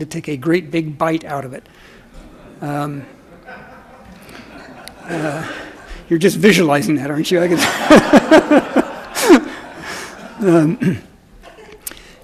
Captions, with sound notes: to take a great big bite out of it. (several audience members laugh) You're just visualizing that, aren't you? (everyone laughs)